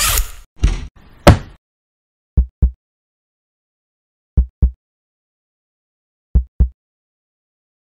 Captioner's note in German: Herzschlag